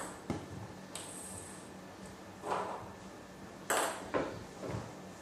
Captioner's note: balls ping pong hitting continues